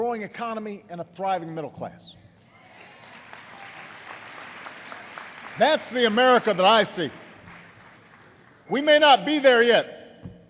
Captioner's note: applause